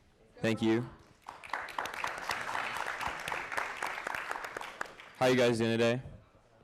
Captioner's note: audience applauding